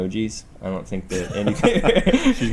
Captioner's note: laughter